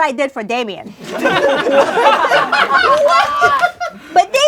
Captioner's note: laughing